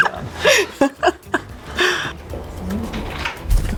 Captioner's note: laughing